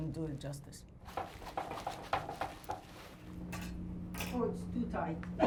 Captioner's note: dress-form clatters